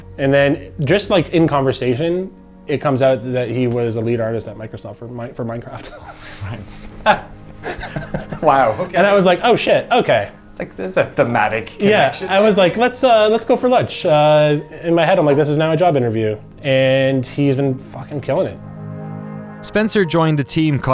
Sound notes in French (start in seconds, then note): 5.9 en riant